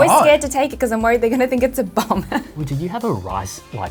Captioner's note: laughs